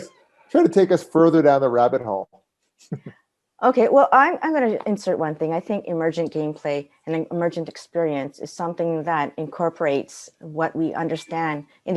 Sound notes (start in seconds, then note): 2.8 chuckles